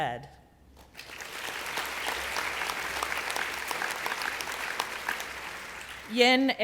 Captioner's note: applause